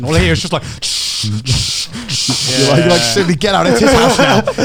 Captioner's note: imitating buzzing wings